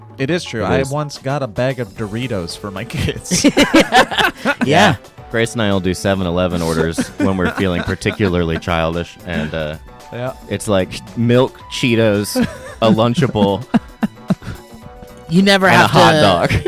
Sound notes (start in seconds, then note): 3.3 laughs